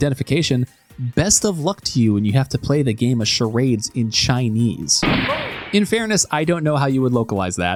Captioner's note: gunshot